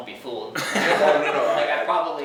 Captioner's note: laughing